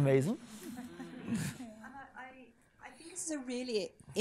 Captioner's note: people chuckling